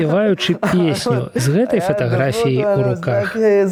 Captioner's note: laughs